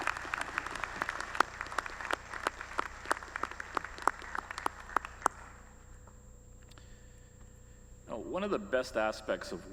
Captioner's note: applause